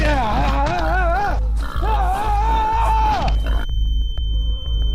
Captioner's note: Oliver shouting; disorienting music; shrill tone blaring